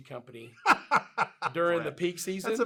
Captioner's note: laughs